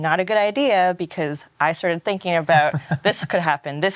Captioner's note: laughs